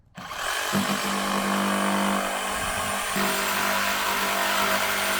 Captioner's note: machine drilling